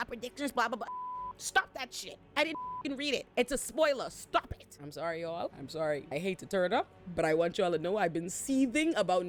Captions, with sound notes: predictors, blah, blah, blah." Stop that shit, I didn't (beep) read it. It's a spoiler, stop it. I'm sorry, y'all, I'm sorry. I hate to turn it up, but I want y'all to know I've been seething about